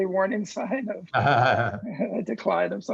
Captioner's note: laughs